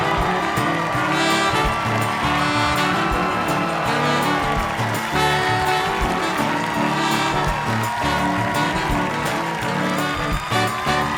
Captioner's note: cheers and applause